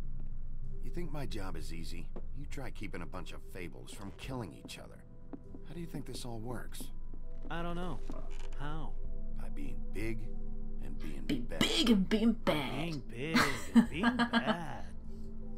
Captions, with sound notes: "By being BIG and being BAAAD!" [Chuckles]